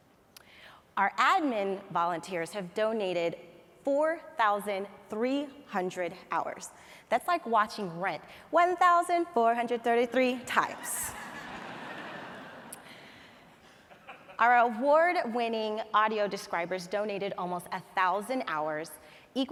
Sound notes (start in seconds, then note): 10.7 audience laughs